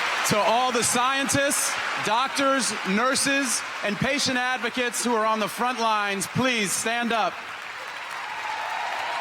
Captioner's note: applause